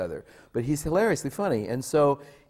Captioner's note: none